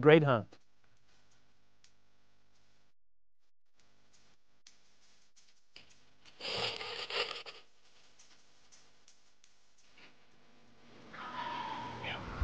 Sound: whispering

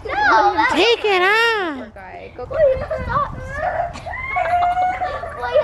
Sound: children chattering

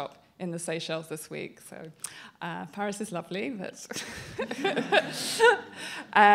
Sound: laughter

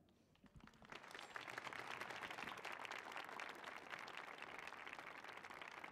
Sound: applause

